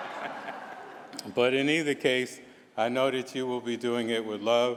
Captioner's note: laughter